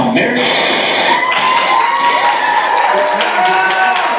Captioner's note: TV Static